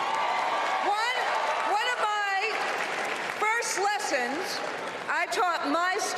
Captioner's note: applause